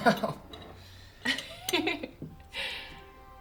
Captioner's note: laughs; Senka laughs